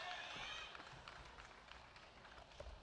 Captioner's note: applause